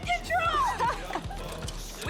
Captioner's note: Jodi laughs